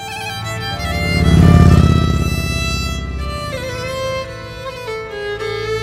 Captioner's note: pensive music; motorcycle roaring